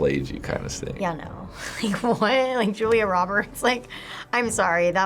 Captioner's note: chuckles